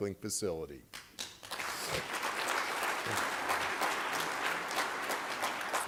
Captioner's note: applause